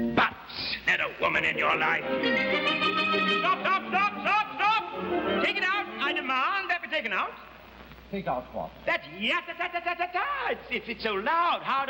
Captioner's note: interjects